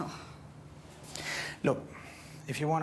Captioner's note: scoffs